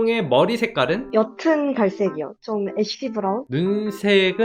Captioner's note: voiceover